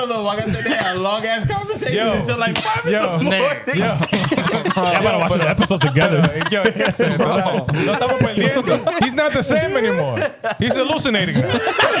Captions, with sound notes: Yo. Yo. (Laughing) I'm gonna watch the episodes together. (Speaking In Foreign Language) He's not the same anymore. He's hallucinating, man.